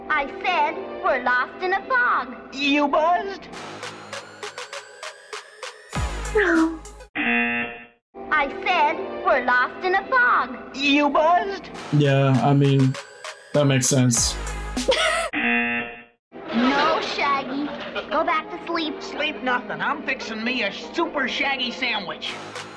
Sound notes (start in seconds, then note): 3.5 upbeat music; 6.6 laughs; 7.6 buzzer rings; 14.8 laughs; 15.0 buzzer rings